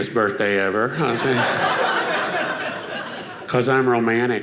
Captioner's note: audience laughing